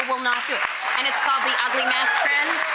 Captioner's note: audience applause